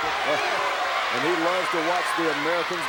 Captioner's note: laughs